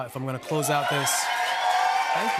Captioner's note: cheers and applause